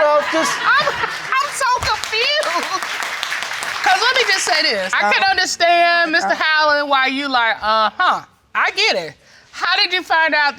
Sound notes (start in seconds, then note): 3.5 audience applauding